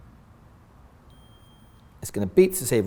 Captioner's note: beep